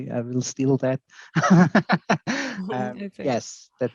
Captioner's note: laughing